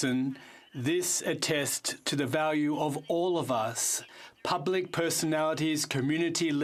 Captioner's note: speaking in french